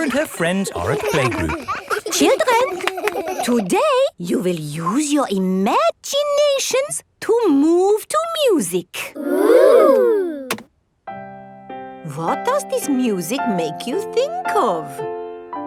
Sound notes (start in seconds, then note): 1.8 all laughing; 11.2 gentle piano music playing